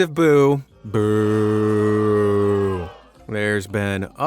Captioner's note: crowd of boos